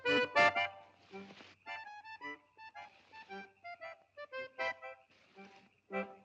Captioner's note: accordion plays; brushes rustling; accordion plays